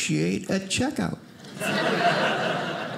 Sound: audience laughing

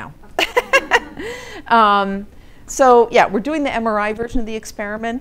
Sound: laughing

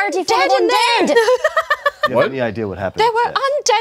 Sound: player laughs

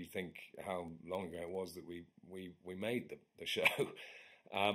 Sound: chuckles

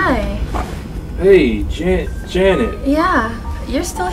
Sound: dramatic music; stammers

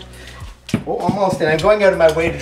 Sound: thumping

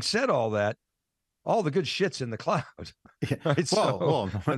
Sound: laughing

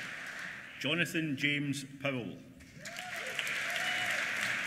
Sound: applause

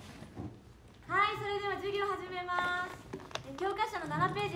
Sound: teacher begins instruction in Japanese

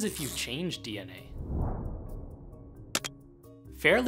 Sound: whoosh

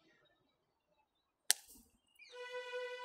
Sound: slaps

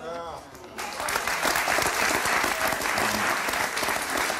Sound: audience applauds

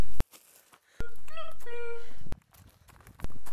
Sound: animal and bird sounds

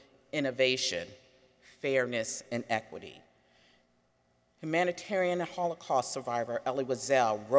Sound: none

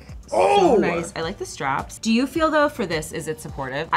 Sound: none

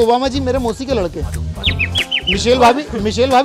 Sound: chirping

